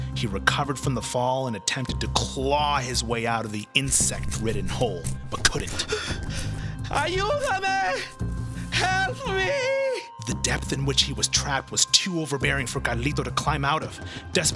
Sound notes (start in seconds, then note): 6.9 speaking Spanish